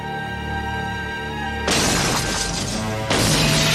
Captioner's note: explosion